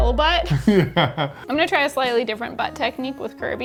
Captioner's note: laughing